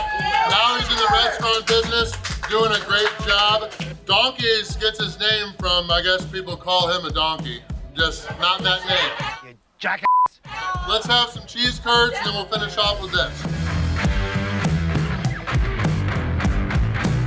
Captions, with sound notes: now he's in the restaurant business, doing a great job. Donkeys gets his name from, I guess, people call him a donkey. Just not that name. - Jack (beeping) - Let's have some cheese curds then we'll finish off with it. (upbeat music)